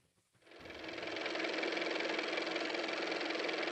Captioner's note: car motor